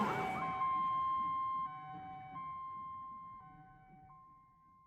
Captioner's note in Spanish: Sirena se va desvaneciendo